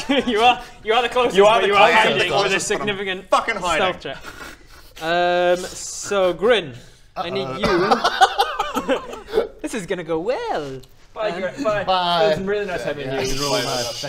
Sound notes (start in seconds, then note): 7.5 nervous laugh